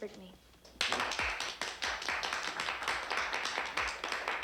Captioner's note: family clapping